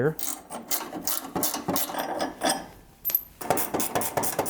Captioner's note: wrench clicking